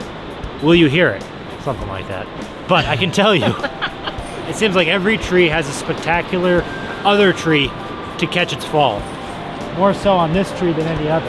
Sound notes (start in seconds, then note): 2.6 laughs